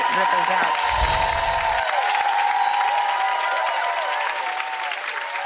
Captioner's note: audience applauds